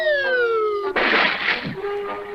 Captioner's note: splash!